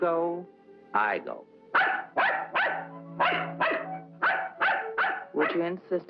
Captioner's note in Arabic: نباح الكلب